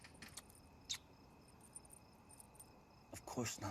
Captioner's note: Steve kissing